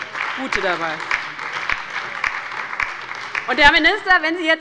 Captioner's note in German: Beifall bei der LINKEN und der SPD